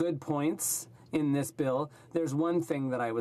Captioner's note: speaking French